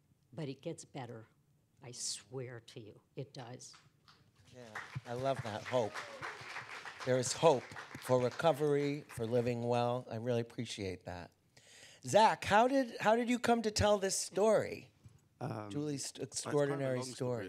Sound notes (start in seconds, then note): 4.4 applause